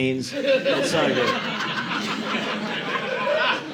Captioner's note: audience laughing